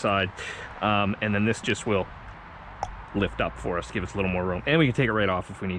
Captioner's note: clicks